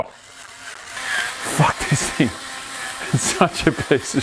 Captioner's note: laughs